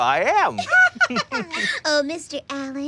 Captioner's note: laughter